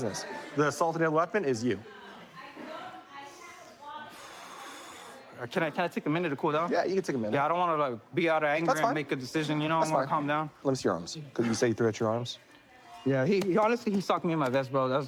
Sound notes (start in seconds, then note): 4.0 exhales